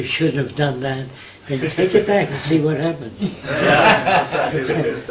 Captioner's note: laughter